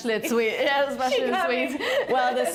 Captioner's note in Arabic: يضحك